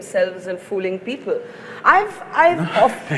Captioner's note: laughs